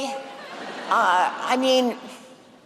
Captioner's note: laughter